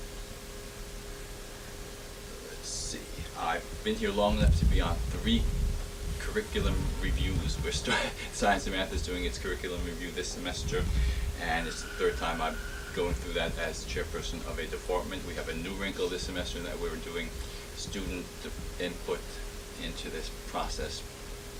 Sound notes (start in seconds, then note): 7.6 laughs